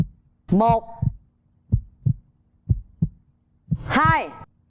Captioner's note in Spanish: sonidos de latidos del corazón